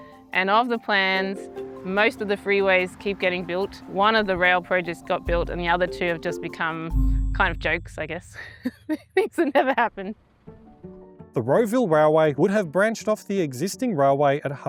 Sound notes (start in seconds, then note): 8.4 laughs